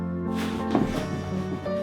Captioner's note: gown rustles